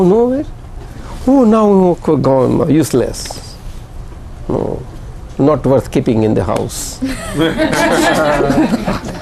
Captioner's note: laughter